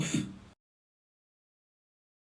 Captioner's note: puff; silence